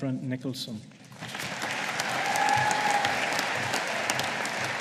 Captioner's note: audience applauding